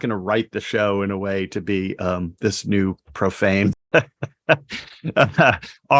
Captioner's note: laughs